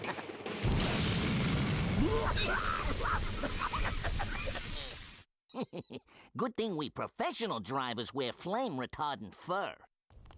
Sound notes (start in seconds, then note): 2.0 coughing; 5.4 chuckling